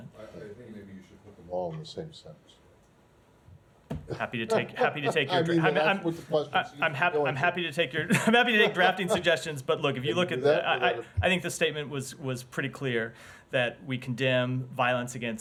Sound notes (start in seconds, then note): 7.9 laughter